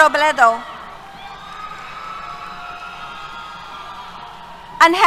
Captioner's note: cheers